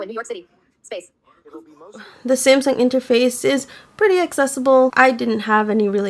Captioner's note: TalkBack is talking in the background